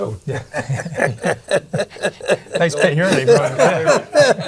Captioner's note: group laughing